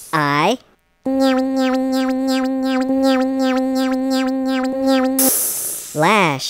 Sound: conveyor sound; psssssss

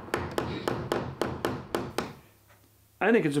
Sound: hammer tapping

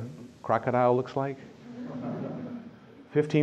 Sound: laughter

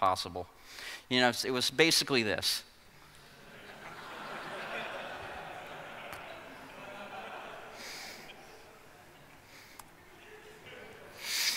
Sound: laughing

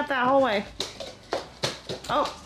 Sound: feet pattering

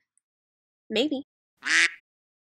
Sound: quack

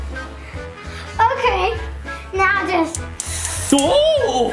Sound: toy clicking

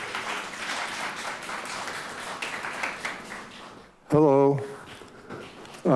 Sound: audience applauds

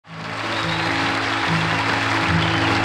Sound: audience clapping

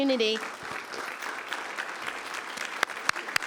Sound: applause

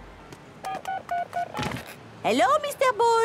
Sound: dial tones beeping

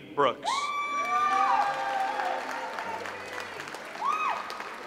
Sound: audience applauds

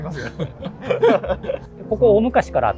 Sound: laughing

